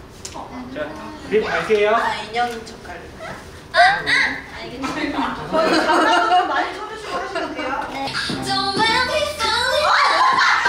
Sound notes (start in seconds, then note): 5.5 hahaha